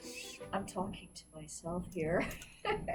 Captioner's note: laughs